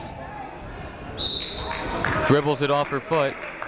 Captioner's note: whistle tweeting